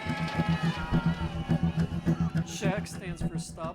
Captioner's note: crowd clamoring